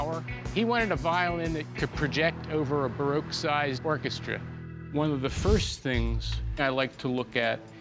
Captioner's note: none